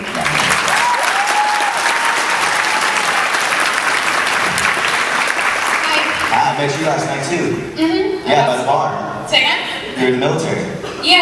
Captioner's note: crowd and laughs